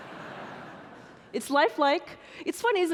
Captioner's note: audience laughing